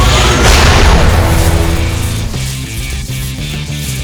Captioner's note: sword whirring; sword crashes